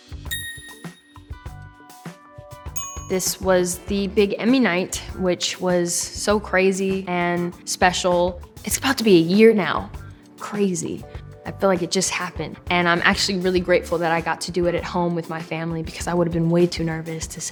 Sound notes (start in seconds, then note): 0.3 phone dinging